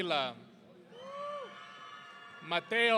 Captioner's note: audience cheering